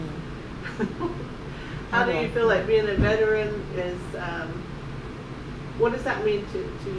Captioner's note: laughs